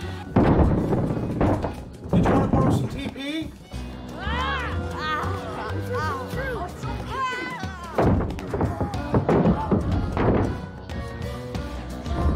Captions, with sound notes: [ Thumping Continues ] Did you want to borrow some T.P.? [ Clattering ]